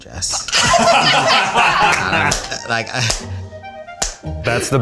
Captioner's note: claps; laughing